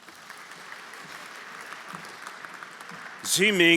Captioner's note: everyone applauding